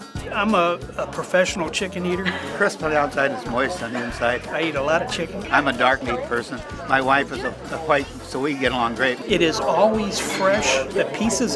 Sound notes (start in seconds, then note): 2.0 laughing